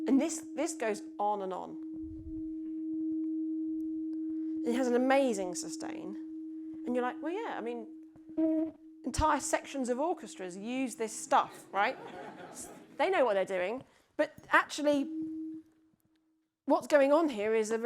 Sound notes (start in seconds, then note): 2.2 tuning fork continues vibrating; 11.4 audience laughs